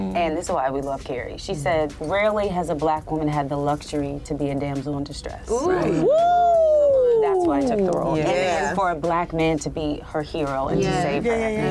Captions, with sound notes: And this is why we love Kerry. She said, rarely has a Black woman had the luxury to be a damsel in distress. [CHEERS] That's why I took the role. And for a Black man to be her hero and to save her.